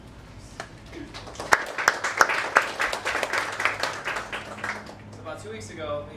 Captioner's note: applause